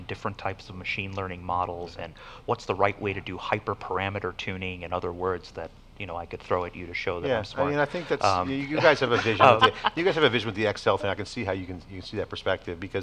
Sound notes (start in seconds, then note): 8.5 laughter